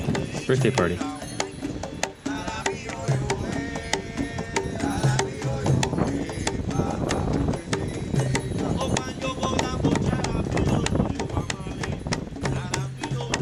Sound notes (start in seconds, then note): 1.7 singing in foreign language; 1.7 whooshing